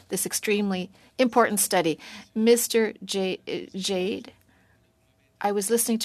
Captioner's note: speaking French